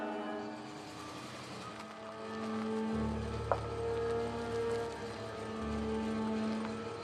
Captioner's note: crickets chirping; tires crunching